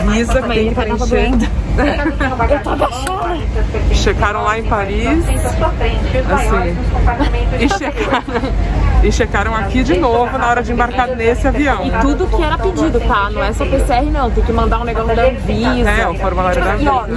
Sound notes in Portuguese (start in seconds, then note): 1.6 risos